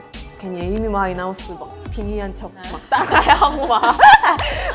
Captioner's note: laugh